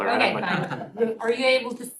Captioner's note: laughter